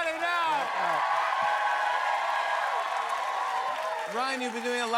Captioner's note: cheers and applause